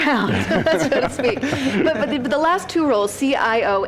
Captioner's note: laughter